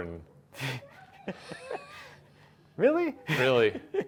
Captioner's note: laughing